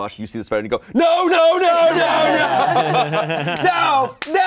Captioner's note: all laughing